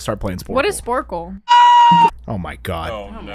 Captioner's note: aaaaaaaaaaaaaaaaaaaaaaaaaaaaaaaaaaaaaaaaaaaaaagh